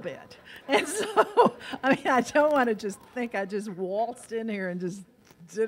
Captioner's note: laughs